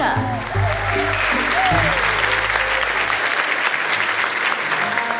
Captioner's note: applause